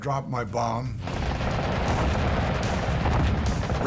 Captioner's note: gunfire